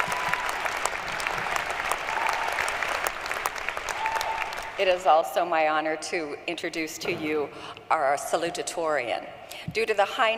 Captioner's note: applause